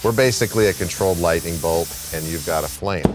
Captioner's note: cutter hissing